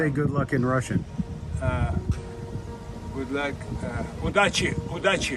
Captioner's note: speaks in a foreign language